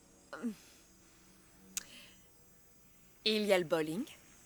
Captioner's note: clicks tongue